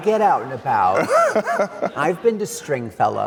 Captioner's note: laughs